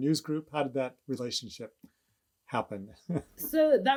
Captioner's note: laughs